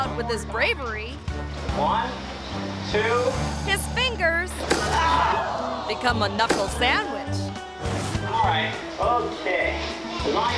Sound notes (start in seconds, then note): 4.6 mouth snapping; 4.6 audience reacting